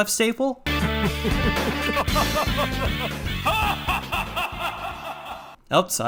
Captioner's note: manic laughter